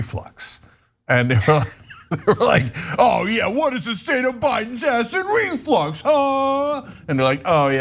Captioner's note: laugh